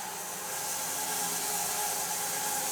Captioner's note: none